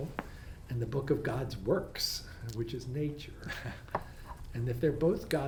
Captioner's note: laughs